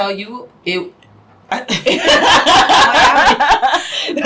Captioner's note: laughing